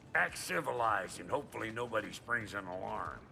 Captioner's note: none